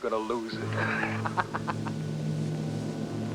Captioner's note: laughs